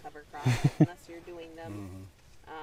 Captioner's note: giggles